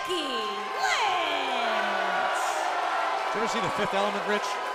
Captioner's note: crowd cheering